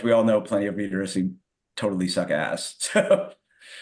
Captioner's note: chuckles